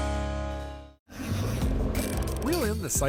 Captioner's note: fishing reel whirring